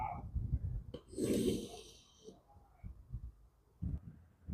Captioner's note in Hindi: नाक से की जाने वाली आवाज़